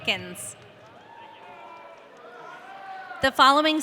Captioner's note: audience cheering